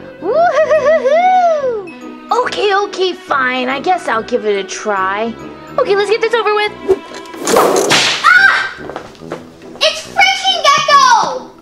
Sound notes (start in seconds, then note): 7.3 whip cracking; 8.2 assistant screaming